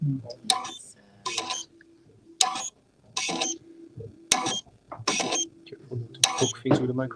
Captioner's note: beeping